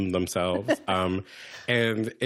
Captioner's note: laughter